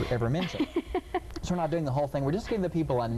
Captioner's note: laughing